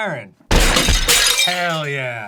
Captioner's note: smashing